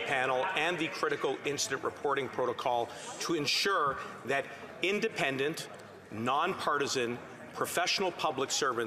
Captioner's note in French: voix de l'interprète